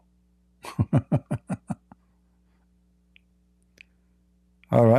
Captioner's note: Ketawa